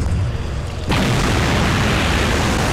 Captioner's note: Explosion